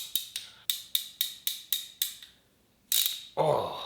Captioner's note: tool clicking